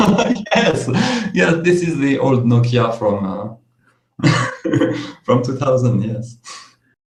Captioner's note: laughs